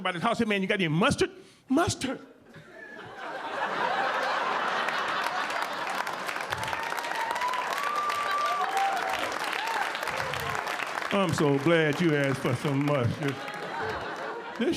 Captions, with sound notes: Go to somebody house, "Hey man you got any mustard?" "Mustard." (audience laughing) (audience applauding) "I'm so glad you asked for some mustard."